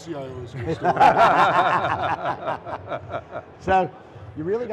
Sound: laughter

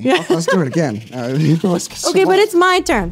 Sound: giggling

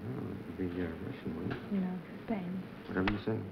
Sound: whispering

